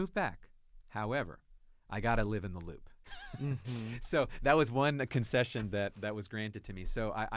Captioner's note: laughs